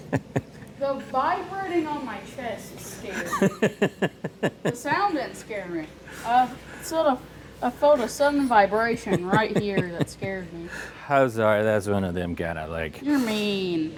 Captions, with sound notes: The vibrating on my chest is scary. (Laughs) The sound didn't scare me. It's sort of a photo-son vibration right here that scared me. I'm sorry, that's one of them kinda like-- You're mean.